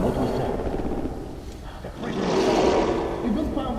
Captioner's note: creature sounds